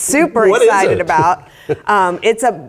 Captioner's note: laugh